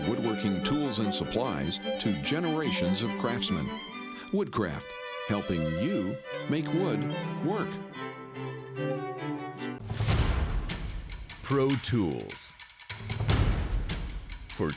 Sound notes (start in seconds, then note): 8.0 classical music; 9.9 banging; 9.9 intense music; 13.0 intense music